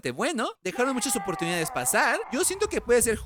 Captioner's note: scream